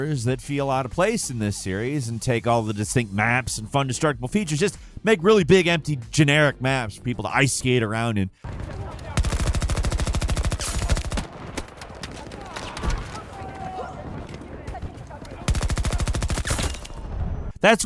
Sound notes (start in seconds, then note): 8.4 gun shooting; 12.0 characters yelling; 12.3 guns shooting; 15.5 gun shooting